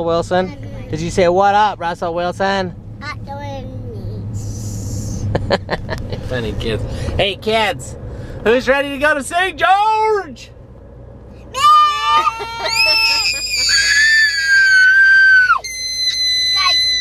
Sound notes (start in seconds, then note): 5.3 chuckling; 11.5 screaming; 12.0 laughing